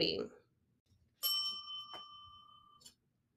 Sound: bell dings

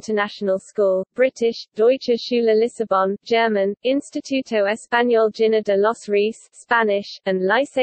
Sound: German; Spanish

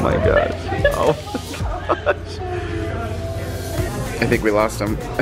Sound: laughing

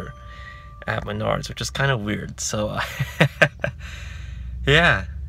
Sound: laughs

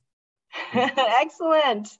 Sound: speaker laughing

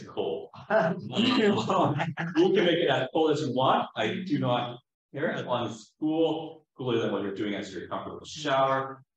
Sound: laughing

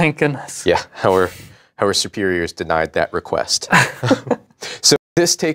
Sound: both chuckle

